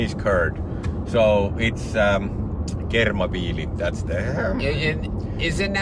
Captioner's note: foreign language